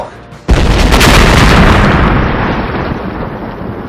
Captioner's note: explosion